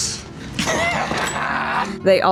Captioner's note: Bug laughs